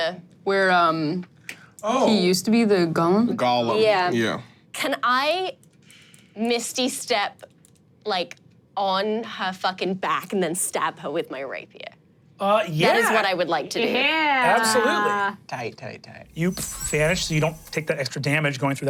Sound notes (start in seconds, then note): 16.3 chimes ringing